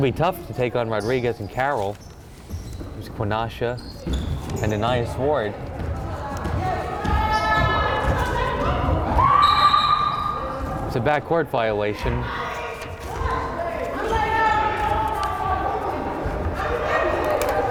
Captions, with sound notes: It's gonna be tough to take on Rodriguez and Carroll, there's Quanasha, and Anais Ward. (crowd chattering and yelling) (woman screaming) (whistle blowing) It's a backcourt violation. (crowd chattering and yelling)